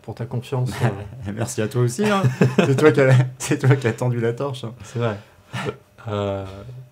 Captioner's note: laughs